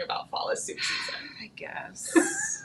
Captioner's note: sighing; laughing